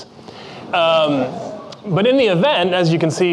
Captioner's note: crowd murmuring